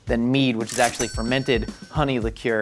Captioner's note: cash register dings